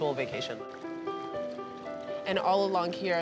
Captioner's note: water lapping